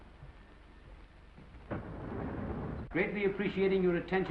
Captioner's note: door sliding